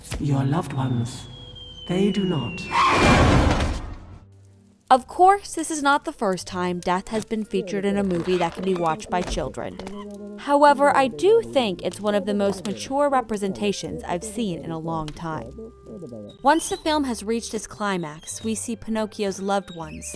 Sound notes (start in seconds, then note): 2.7 crash